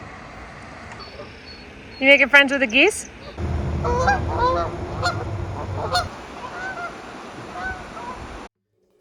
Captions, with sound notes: You making friends with a geese? (geese honking)